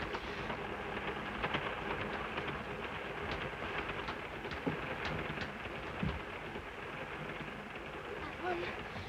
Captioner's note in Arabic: صوت خشخشة القطار